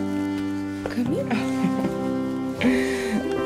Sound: giggle

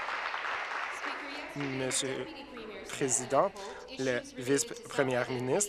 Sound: applause

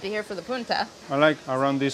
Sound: speaking in foreign language

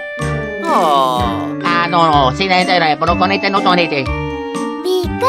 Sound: italian gibberish

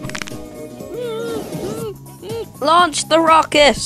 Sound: muffled Scream

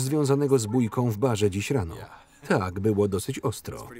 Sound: chuckles

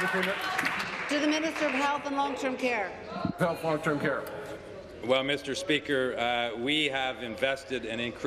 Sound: applause

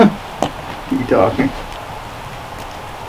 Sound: chuckles

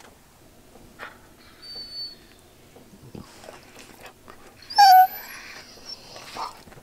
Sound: Caesar is yawning and whimpering

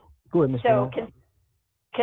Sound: interference

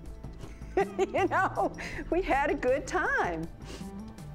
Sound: laughs

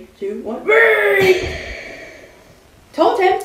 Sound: explosive

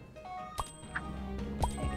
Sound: trophy ding

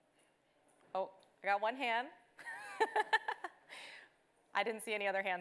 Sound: laughs

